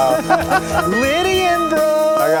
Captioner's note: laughing